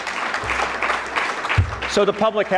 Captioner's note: audience clapping